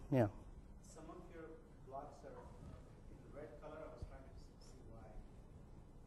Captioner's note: man speaking in the background